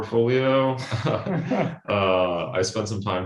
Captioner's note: all chuckle